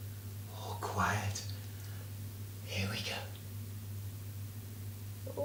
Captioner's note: whispering